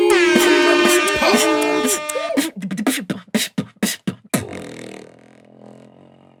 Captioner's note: air horns blare